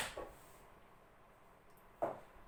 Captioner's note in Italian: silenzio assoluto